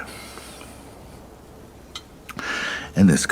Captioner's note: wind blowing